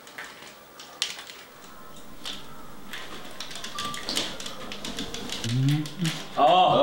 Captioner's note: controllers clacking